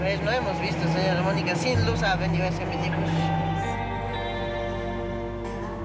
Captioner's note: speaking in foreign language